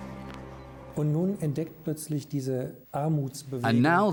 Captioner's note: man speaking German